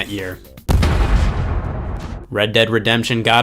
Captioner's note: loud bang